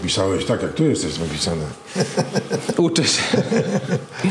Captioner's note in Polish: śmiech